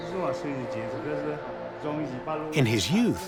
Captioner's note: speaking Chinese dialect